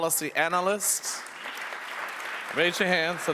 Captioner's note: audience applauds